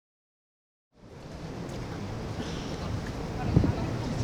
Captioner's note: sound of the stadium noise